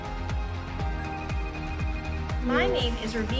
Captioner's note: phone rings